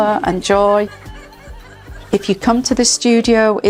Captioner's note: laughter